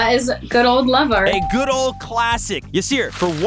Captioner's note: bell ringing